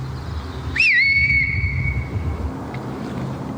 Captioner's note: whistles